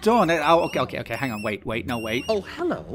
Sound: squeaking invasion

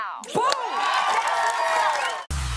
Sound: cheers and applause

